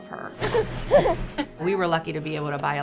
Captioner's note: giggles